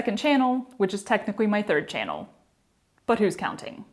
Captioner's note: none